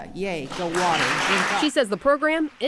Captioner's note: applause